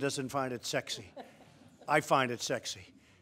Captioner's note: laughter